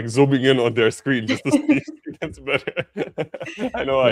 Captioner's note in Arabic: ضحك